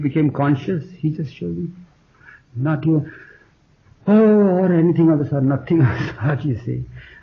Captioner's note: inhales deeply